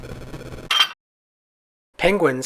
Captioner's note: metallic clank